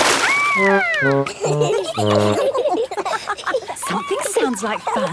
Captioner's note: all laughing